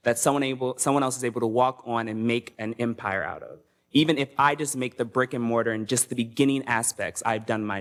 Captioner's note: none